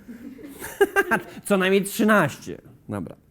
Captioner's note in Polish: śmiech prowadzącego